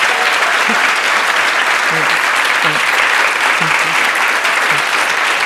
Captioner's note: applause